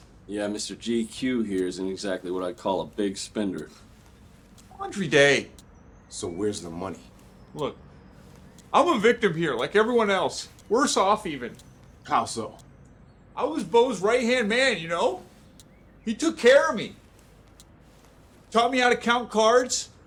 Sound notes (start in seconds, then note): none